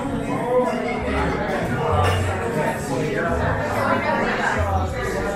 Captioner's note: people chattering